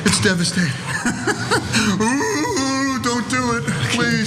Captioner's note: laugh